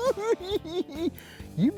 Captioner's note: cackling